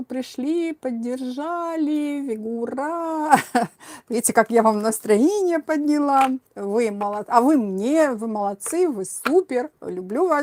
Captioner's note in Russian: смех